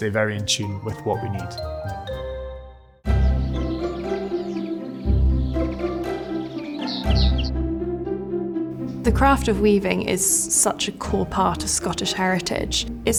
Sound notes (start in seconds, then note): 2.4 upbeat music; 5.3 birds chirping